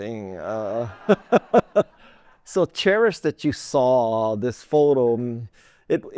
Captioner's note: laughter